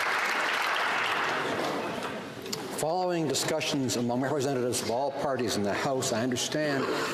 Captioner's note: some Applause